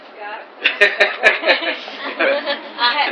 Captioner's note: laughter